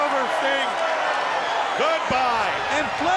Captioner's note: crowd cheering